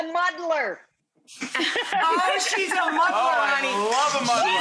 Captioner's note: woman laughing